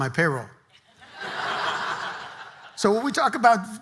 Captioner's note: audience laughing